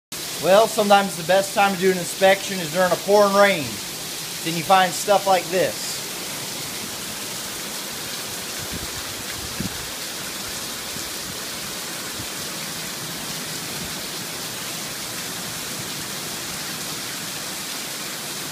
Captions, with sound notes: Well, sometimes the best time to do an inspection is during a pouring rain. Then you find stuff like this... (water gushing)